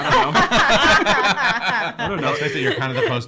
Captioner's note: everyone laughing